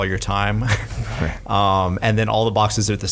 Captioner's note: laughs